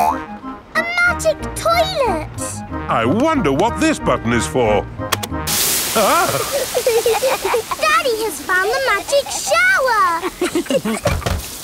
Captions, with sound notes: A magic toilet! I wonder what this button is for. (LAUGHING) Daddy has found the magic shower!